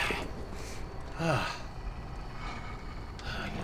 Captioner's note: distant growling